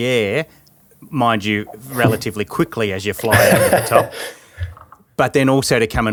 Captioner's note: laughing